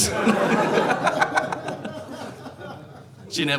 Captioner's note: audience laughing